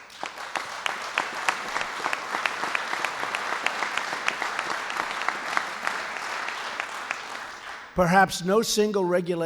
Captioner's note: applause